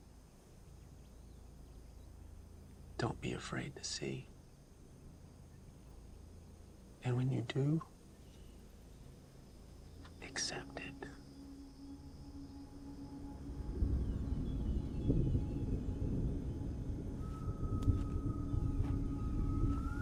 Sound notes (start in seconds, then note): 13.2 thunder rumbling; 15.5 ethereal music playing